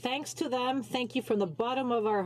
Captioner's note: speaking french